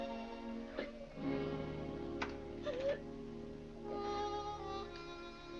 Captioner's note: upbeat music; Vinnie sobbing; soft sad music